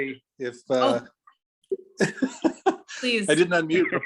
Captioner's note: speaker laughing